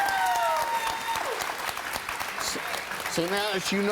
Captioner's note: audience cheers